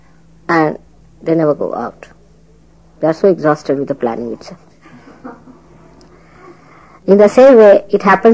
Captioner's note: laughter